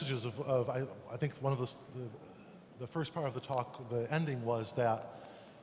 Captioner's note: German interpretation blocking English speech